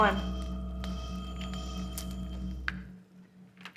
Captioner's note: laser whines